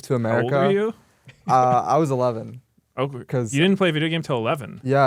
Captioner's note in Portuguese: risos